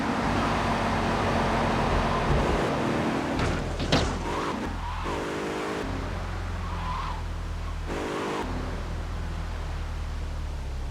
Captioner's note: plane engine roaring